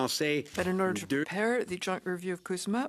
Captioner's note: speaking French